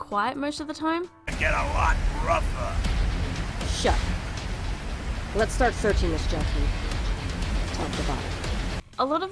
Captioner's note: game audio